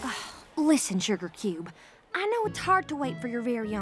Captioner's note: sighs